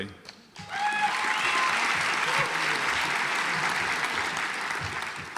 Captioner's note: audience applauds